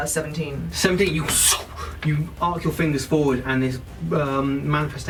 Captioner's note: swoosh noise